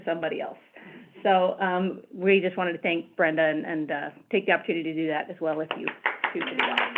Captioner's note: applause